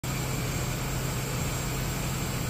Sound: airplane engine noise

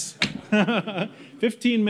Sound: laughs

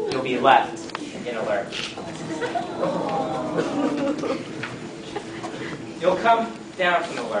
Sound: aww

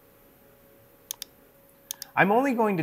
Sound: mouse clicking

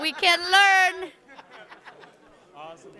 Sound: man laughing

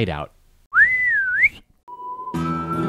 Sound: whistle

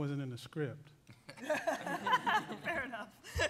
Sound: laughing

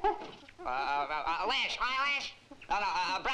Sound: stammers

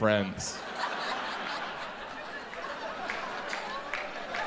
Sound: audience laughs

